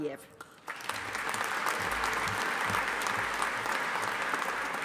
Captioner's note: audience applauding